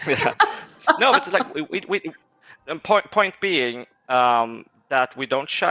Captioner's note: laughs